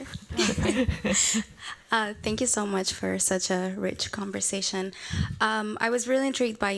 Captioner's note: laughs